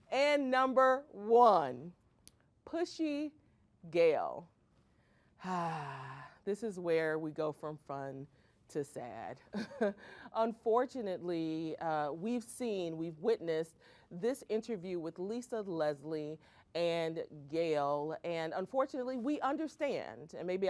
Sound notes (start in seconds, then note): 5.4 sighs